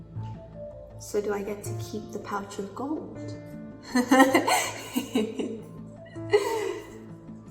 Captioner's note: laughs